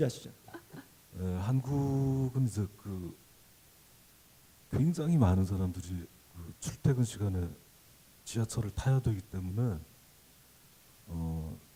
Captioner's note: laughter; speaking Korean